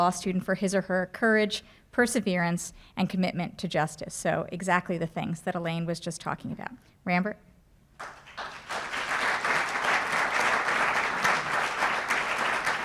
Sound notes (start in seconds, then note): 8.0 applause